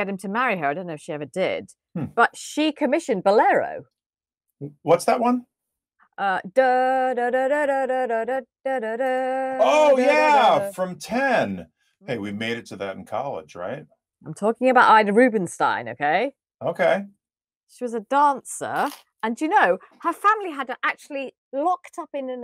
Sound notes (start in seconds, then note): 6.6 humming